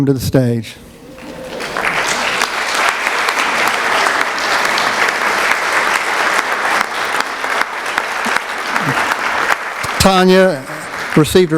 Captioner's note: applause